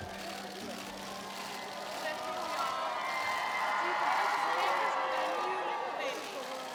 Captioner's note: crowd cheers